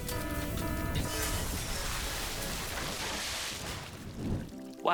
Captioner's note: equipment exploding